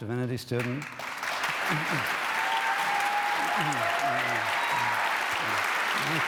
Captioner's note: applause